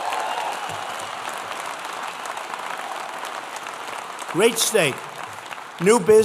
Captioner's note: applause